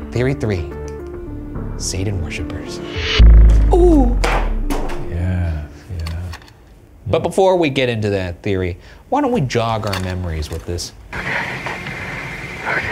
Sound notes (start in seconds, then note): 2.4 intense synth music; 4.4 board clatters